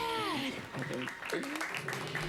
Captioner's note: applause